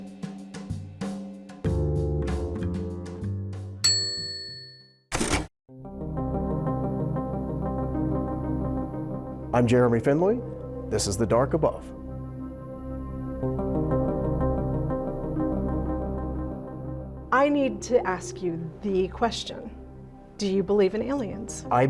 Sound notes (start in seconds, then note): 1.6 cool jazzy music; 3.8 bell rings; 5.1 typewriter rattles; 6.1 dramatic music; 12.8 dramatic music